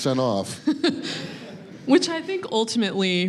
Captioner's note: audience laughing